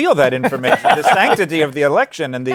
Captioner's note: laughter